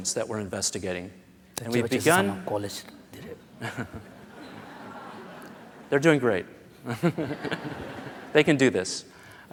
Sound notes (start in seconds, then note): 4.9 foreign Language; 5.4 laughter